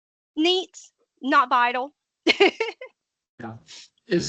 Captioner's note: laughing